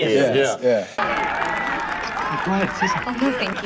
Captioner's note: crowd applauding